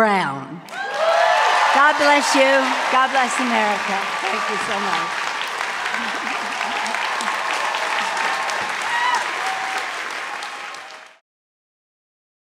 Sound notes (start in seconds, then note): 0.1 cheers and applause; 3.3 cheers and applause